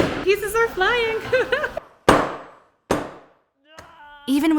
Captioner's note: hammer banging; laughs